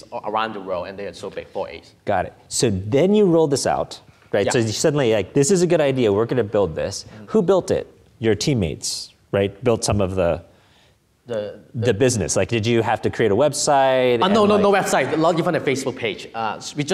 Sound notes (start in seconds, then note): none